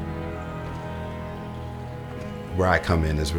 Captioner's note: water dripping; footsteps